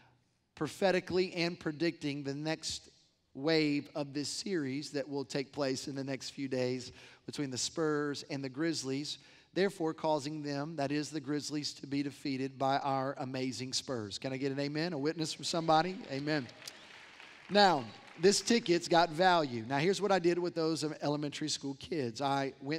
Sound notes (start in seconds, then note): 16.2 cheers and applause